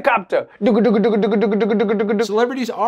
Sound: imitating helicopter noises

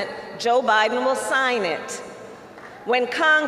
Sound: applause

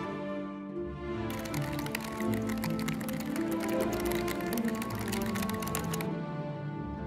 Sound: typing

